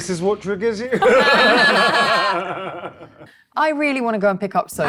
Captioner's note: laughs